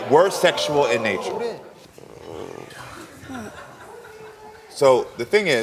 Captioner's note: audience exclaims